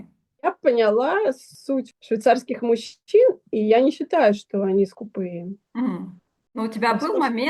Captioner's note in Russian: откашливается